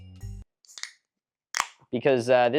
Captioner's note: tab pops